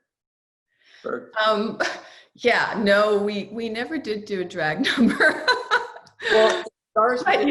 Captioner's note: laughs